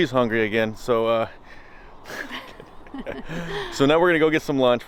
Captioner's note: laughing